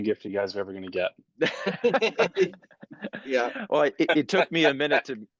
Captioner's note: laugh